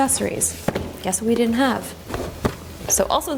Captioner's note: box thuds